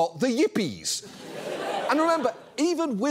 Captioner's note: audience laughs